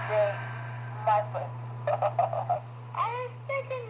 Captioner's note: giggles